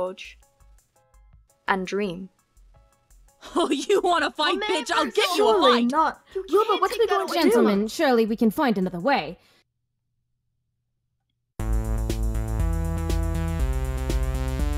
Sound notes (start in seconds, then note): 3.8 yelling, overlapping voices; 11.7 electronic synth music